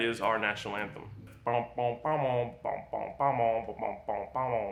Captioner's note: imitates guitar